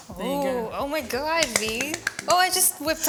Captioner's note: hand clapping